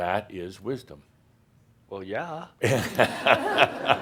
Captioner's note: more laughter